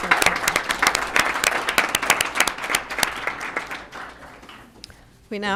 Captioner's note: applause